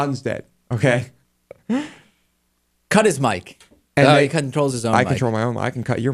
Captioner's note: laughs